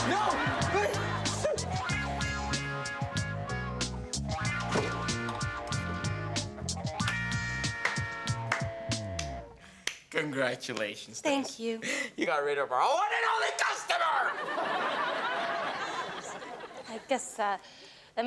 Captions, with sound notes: - No. Please! (Door slams) - Congratulations. - Thank you. - (Yelling) You got rid of our one and only customer. (Audience laughing) - I guess that,